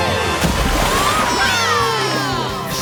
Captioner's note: cheering